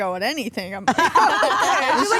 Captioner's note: all laugh